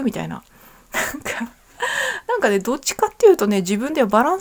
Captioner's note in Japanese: 笑い